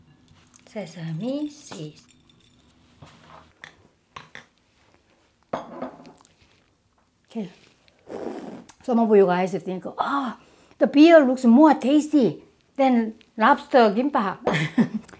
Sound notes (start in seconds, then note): 7.9 slurps; 14.5 chuckles